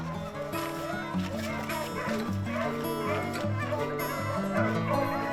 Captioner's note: slow country music; gun fires; dogs barking